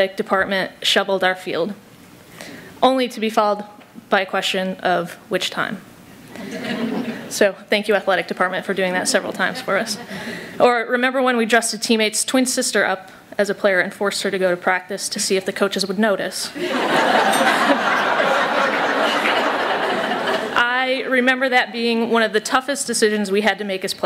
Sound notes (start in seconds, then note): 16.6 laughter